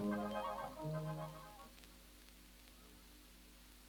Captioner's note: whistle blows